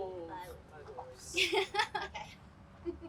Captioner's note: laughs